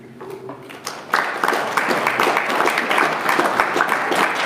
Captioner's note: audience applauding